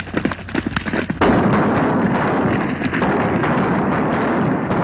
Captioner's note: guns fire